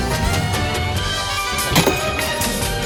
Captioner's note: Caprice spits